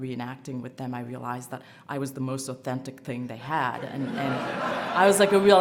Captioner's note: laughter